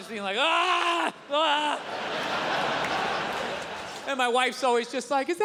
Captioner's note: yells; audience laughs